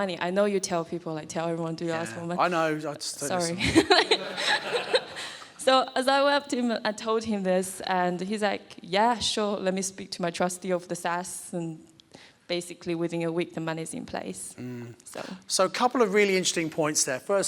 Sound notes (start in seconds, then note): 3.4 and audience laughs